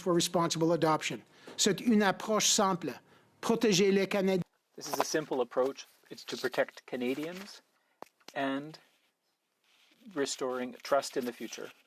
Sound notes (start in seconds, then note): 9.4 speaking French